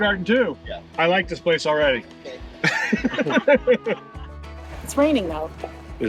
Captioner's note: laughs